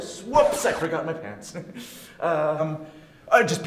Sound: nervous laughter

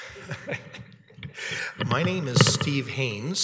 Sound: chuckles

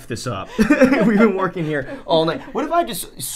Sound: laughing

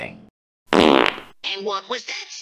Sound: fart

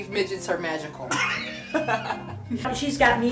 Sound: all laugh

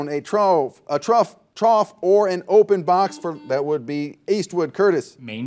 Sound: buzzer dings

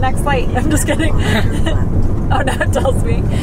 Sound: laughs

